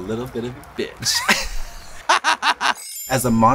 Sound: laughs

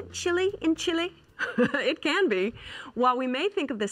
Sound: chuckles

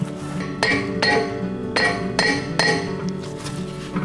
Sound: metal clinking

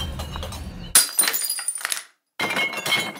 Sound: bottles dumping into trash bin; breaking glass

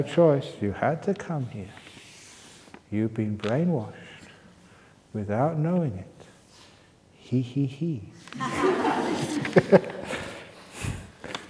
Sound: laughter

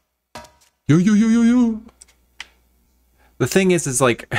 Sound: enthusiastic noises

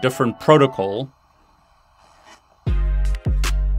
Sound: radio interference; upbeat music

